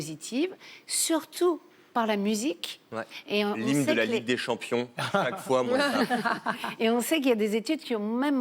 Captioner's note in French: rires